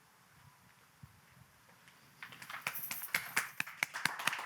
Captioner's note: clappng